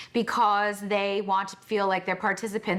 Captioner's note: none